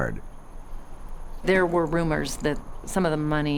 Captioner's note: wind